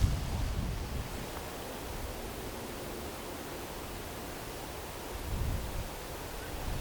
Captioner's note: wind blowing